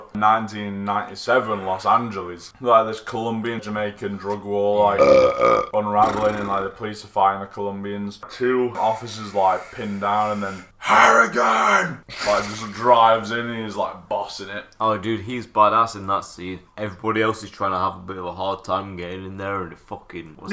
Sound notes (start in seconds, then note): 4.9 burps